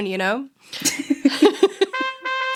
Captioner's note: both laughing